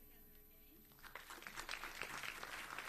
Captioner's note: audience applauds